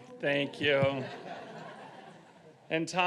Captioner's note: audience laughing